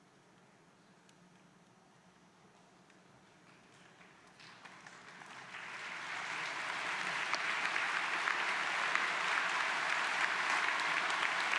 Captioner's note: applause